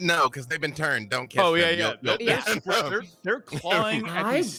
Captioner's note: group chattering